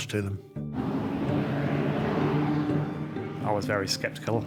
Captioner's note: gentle music continues; distant motor roars